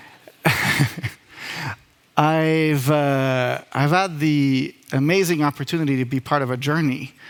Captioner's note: laughs